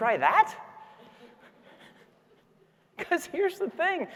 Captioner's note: audience laughing